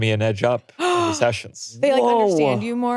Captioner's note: gasps